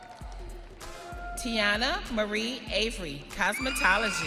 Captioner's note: audience cheering